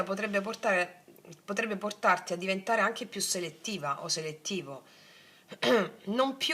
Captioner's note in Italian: schiarire la voce